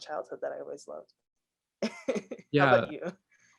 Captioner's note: laughs